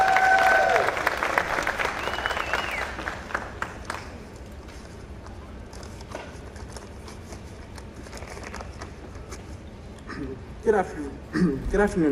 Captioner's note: applause